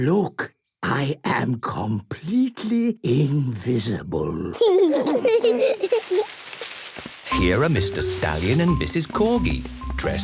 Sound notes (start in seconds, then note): 0.1 whispering; 4.5 kids giggling